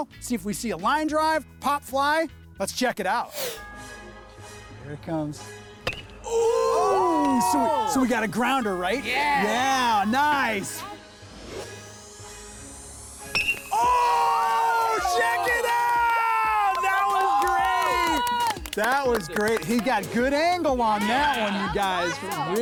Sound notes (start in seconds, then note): 3.4 air whoosh; 5.8 bat hits ball; 13.3 bat hits ball; 17.9 crew cheers